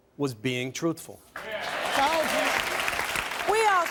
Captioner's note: audience applauding